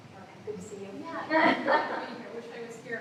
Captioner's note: laughter